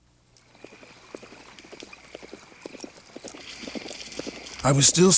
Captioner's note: hooves clop